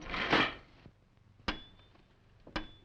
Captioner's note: item clattering; glass tapping